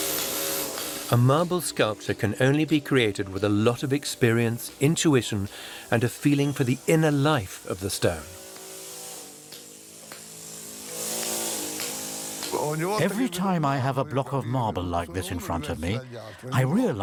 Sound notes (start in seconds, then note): 8.1 chisel chinks against stone; 8.1 sound of drilling; 11.7 in Italian